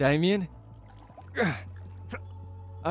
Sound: grunt

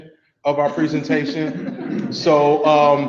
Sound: people laugh softly

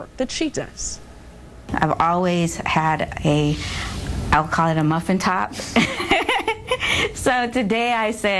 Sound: laughter

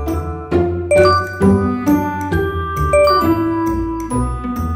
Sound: letters ding

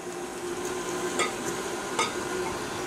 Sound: mixer noise

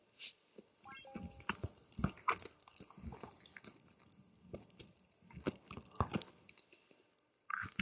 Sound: mukbang sound

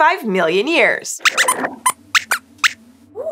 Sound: squeaks squeaks

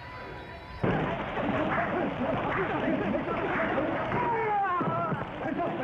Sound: men shouting

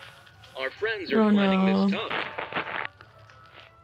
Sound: radio

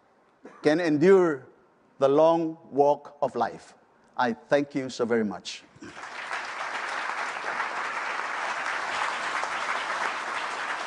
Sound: applause

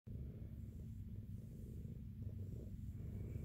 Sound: soft purring

